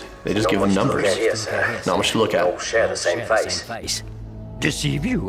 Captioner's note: men muttering